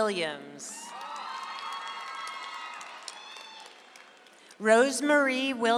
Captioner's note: audience applauds